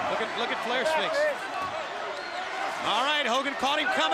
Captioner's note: crowd chatter